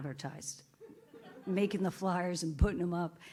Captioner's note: audience laughs